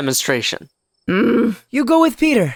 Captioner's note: annoyed noise